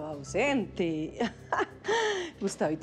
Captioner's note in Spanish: Ríe